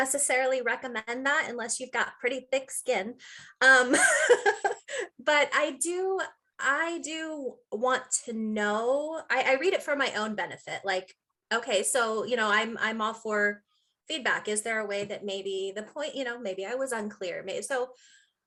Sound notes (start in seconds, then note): 5.3 laughing